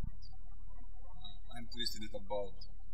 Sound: birds chirping

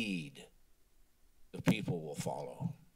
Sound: silence

